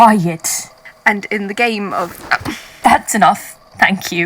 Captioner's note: chokes